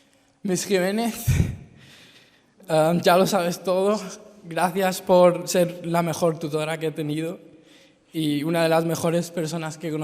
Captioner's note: in Spanish